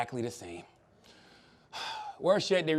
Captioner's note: sighs